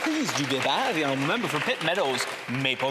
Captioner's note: some Applause